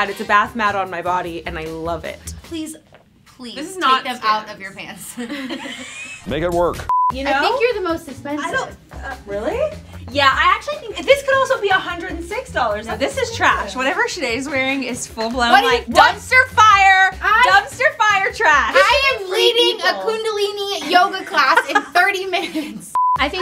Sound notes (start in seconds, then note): 5.1 laughs